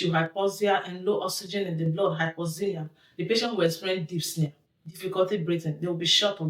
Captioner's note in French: difficulté à respirer